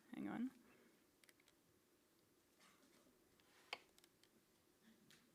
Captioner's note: keyboard typing